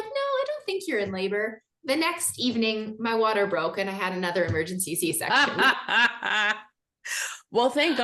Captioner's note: both laugh